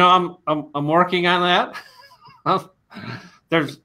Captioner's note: laughing